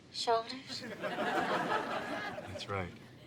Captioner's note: audience laughs